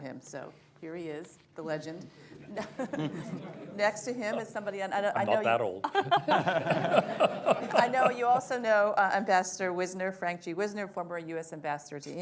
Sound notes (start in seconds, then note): 2.4 laughter; 5.8 laughter